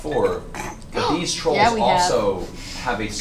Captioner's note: gasps